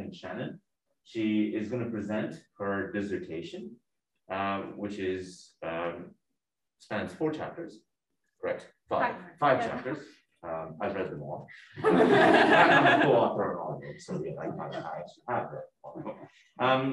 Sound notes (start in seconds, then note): 11.6 laughing